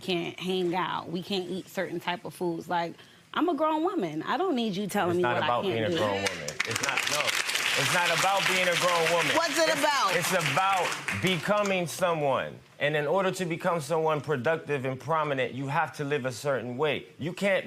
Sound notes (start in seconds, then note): 6.2 audience applause